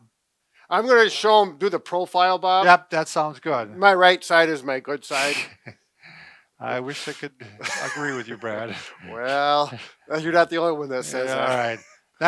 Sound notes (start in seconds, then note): 5.5 chuckles